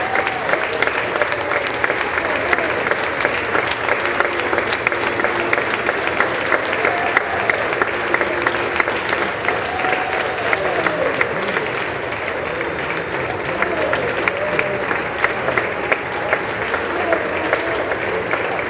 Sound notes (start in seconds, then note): 1.5 applause